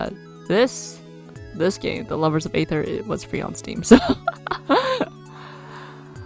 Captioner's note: laughs